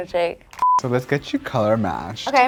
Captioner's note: beep